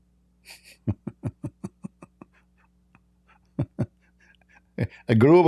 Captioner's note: Ketawa